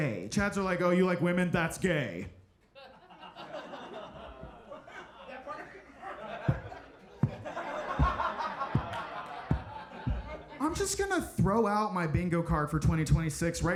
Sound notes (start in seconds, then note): 2.7 audience laughing; 7.8 mike thumping